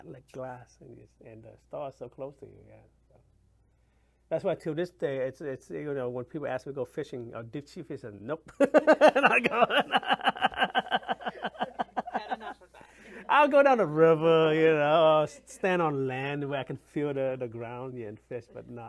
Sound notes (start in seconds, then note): 8.6 laughs